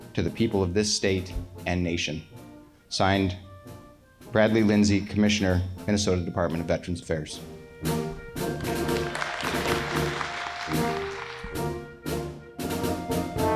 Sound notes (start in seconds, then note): 7.8 lively music continues; 8.5 audience applauds